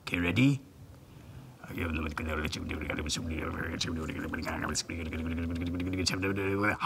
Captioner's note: muttering